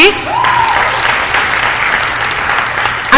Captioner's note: applause